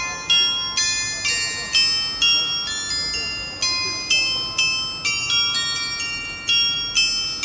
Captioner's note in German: glocke